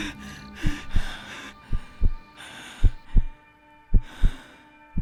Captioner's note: heart beating